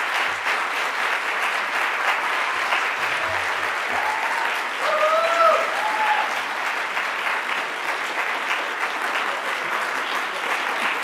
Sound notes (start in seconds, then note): 2.3 audience cheering